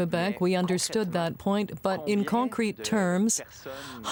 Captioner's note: speaking French